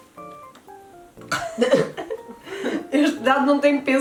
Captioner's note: laughs